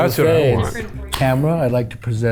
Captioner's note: sodas pop open